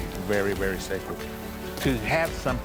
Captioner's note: pat